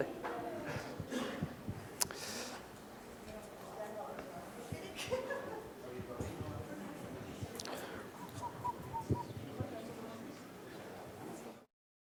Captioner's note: chatter